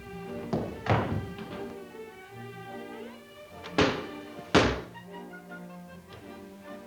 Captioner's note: gentle music; ball thuds